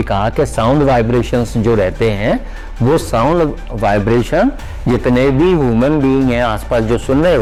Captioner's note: Sound vibrations